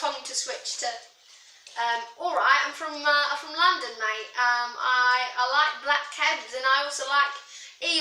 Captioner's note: bad cockney accent